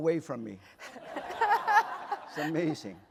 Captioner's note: laughter